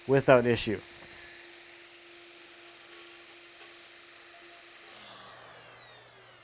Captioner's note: router and vacuum humming